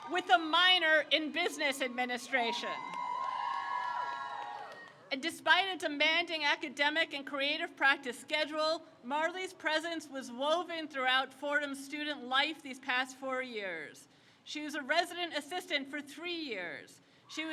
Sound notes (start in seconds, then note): 3.5 crowd cheers